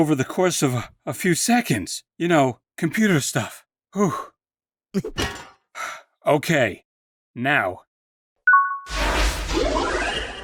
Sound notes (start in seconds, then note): 5.2 thud; 5.7 sigh; 8.5 ding!